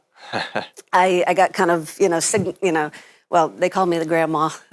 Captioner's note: laughs